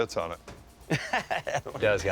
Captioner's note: laughs